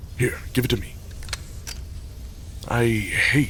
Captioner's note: sounds of handling a metal object